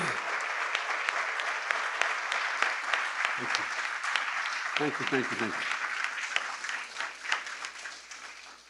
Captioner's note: applause